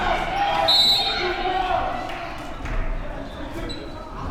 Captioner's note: whistle